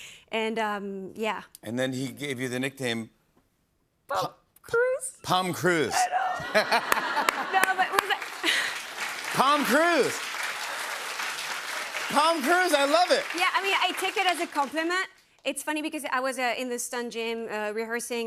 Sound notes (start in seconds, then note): 6.2 laughter